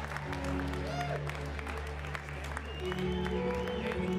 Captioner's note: applause